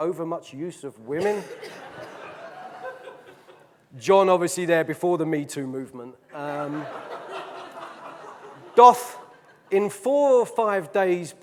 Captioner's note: audience laughing; audience laughing loudly